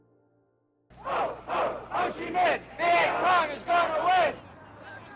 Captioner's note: protesters chanting